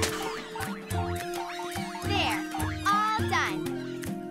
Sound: all gibbering

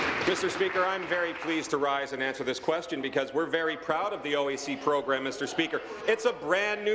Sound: applause

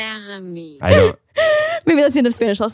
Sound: automated voice speaking German slower; laughs

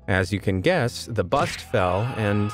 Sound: screaming

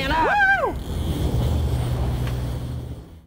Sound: reel drag

